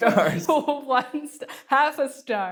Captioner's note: laughs